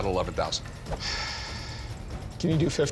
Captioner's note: exhales